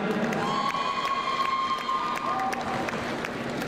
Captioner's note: crowd cheering